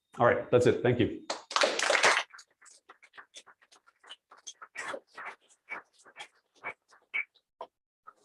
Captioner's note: applause